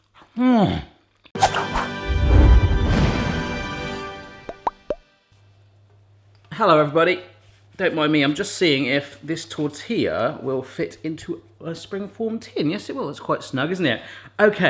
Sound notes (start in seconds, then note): 0.4 groans; 1.4 bright upbeat music